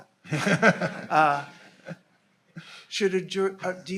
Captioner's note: laughing